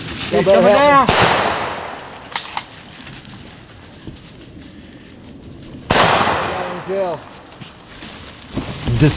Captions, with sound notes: - He's coming down! (gunshot) (gunshot)